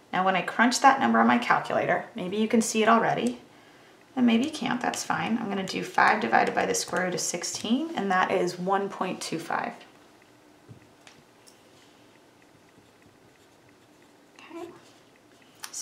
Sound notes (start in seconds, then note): 13.3 pen scribbles